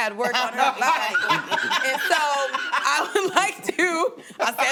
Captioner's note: laughs; laughing